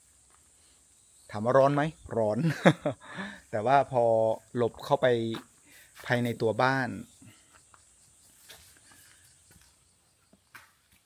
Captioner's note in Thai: เสียงหัวเราะ